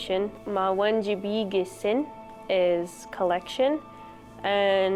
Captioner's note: speaks Ojibwe